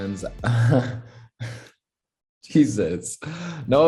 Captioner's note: Noah laughs awkwardly